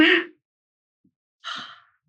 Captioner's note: laughing